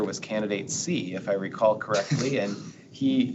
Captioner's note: board members chuckling